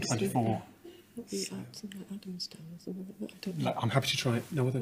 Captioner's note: muttering